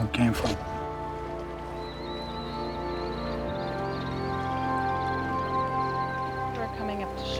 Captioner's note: birds squawking